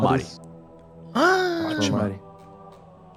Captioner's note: gasps